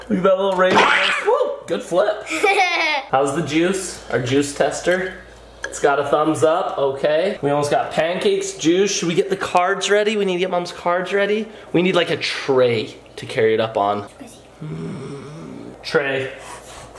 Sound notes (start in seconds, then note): 1.2 pancake squelches; 2.2 laughs